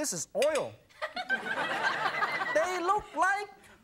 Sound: audience laughing

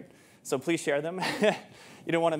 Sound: chuckles

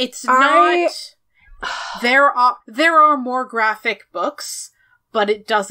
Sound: sighs

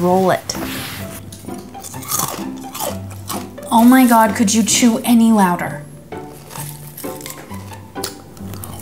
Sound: loud crunch; louder crunch

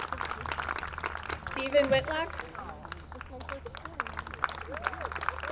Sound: audience clapping

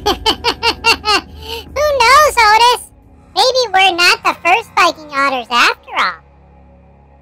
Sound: laughs

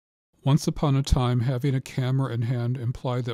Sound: voiceover

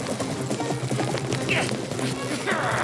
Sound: grunting

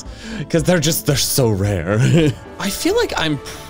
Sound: mocking laugh

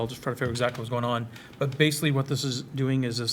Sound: none

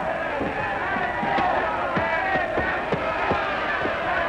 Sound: shouting

